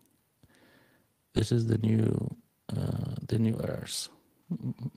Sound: hums

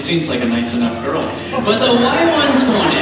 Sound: audience laughs

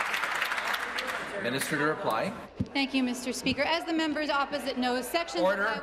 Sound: applause

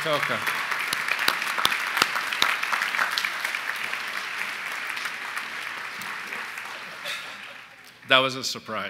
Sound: applause

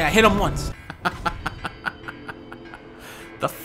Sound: evil laugh

